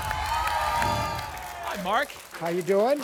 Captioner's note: applause and cheering; whoosh